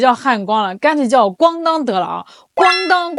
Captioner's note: clang